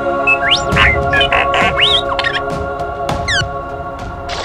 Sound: electronic beeps

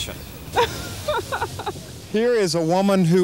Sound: woman laughs

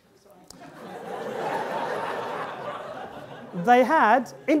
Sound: audience laughing

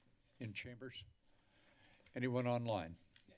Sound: silence

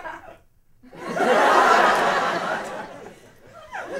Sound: laughter

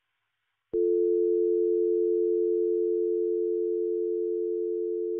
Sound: dial tone buzzing

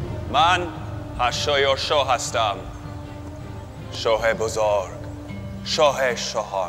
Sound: dramatic orchestral music; King Xerxes speaking in foreign language

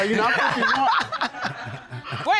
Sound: laughs

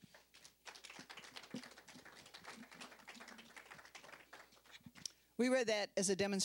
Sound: applause

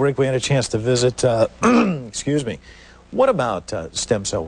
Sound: coughing

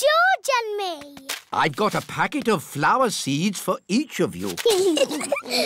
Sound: both giggling

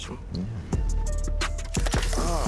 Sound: camera shutter

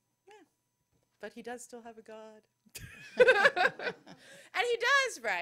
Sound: laughter

